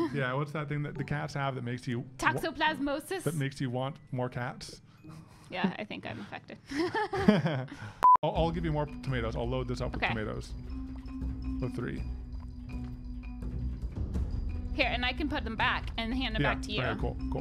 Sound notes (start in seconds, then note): 6.6 both laugh